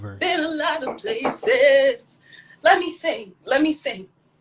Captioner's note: knock on Door